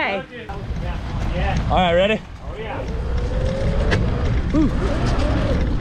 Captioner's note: bike rumbling